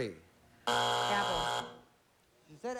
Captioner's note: buzzer